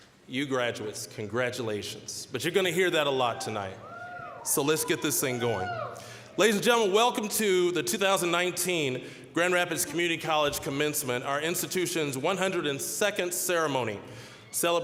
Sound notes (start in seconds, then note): 3.3 scattered cheering